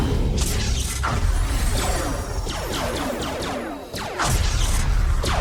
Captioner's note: spacecrafts whooshing; cannons blasting